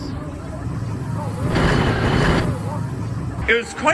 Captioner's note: Mean Streak brakes forward and backward